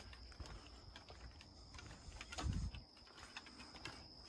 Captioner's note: footsteps tapping